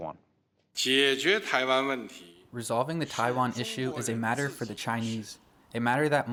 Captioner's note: through translator